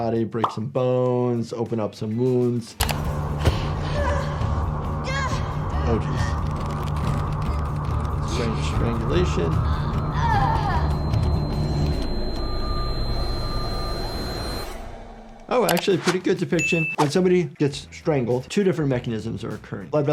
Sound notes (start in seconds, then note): 3.4 person gasps; 9.6 person moaning